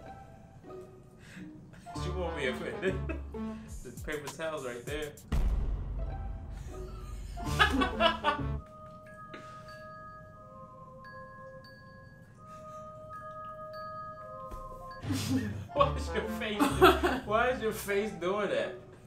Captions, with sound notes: She won't be offended. Paper towels right there. (laughing) (somber music) (laughing) Why is your face doing that?